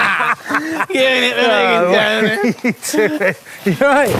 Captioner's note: both men laugh